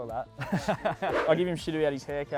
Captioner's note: laughing